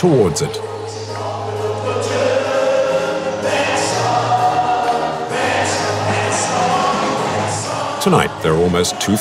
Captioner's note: foreign language